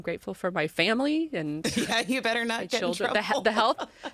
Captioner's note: laughs